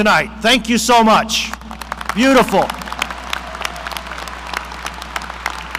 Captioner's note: audience applauding